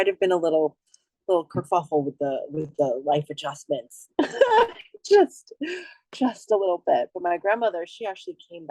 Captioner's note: laughs